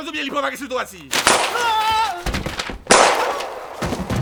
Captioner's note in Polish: strzał; krzyk